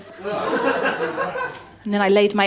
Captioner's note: laughter